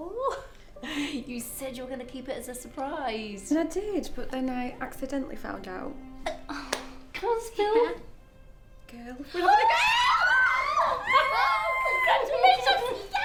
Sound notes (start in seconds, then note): 9.4 all screaming